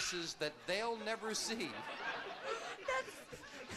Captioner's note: audience laughing